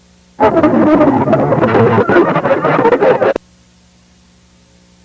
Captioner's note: glitched distorted voices idk